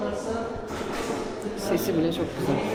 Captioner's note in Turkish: none